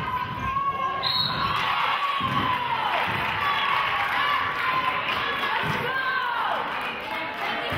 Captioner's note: whistle blows; cheering and clapping